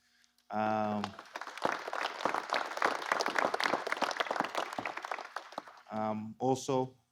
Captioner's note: applause